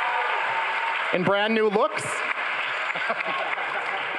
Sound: crowd laughing

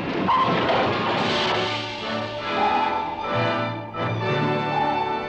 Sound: sonar pinging

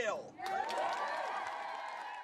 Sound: clapping and cheering

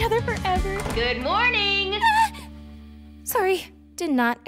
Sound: gasping

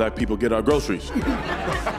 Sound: laughter

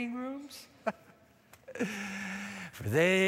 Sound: chuckles

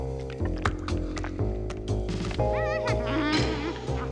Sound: humming

